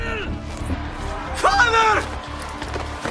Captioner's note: crowd cheering